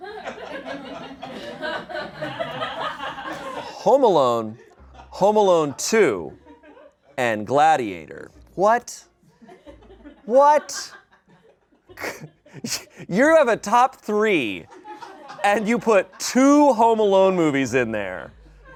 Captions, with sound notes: (audience laughing) "Home Alone," "Home Alone 2," and "Gladiator." What? (audience laughing) What? (laughs) You have a top three and you put two "Home Alone" movies in there.